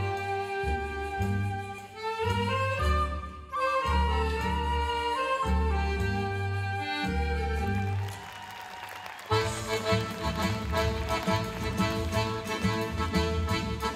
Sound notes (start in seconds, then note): 9.3 audience applauding and cheering